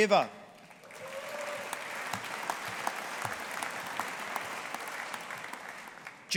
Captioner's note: audience applauding